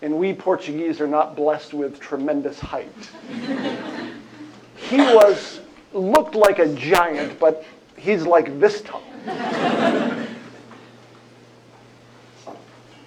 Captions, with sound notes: and we Portuguese are not blessed with tremendous height-- he looked like a giant. But he's like this tall. [LAUGHTER]